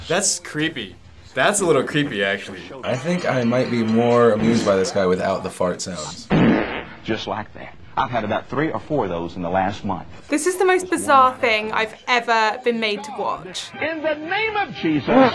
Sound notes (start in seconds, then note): 6.2 preacher farts